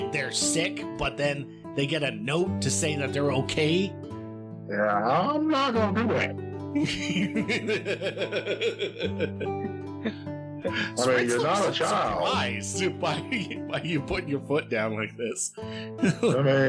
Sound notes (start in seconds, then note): 6.7 laughing